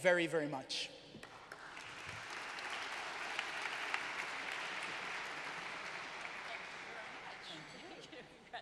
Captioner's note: applause